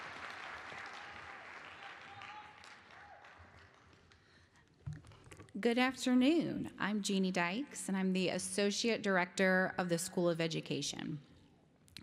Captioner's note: applause